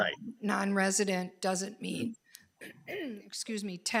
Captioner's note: clears throat